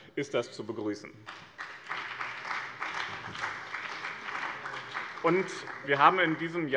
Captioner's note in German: Beifall bei dem BÜNDNIS 90/DIE GRÜNEN und der CDU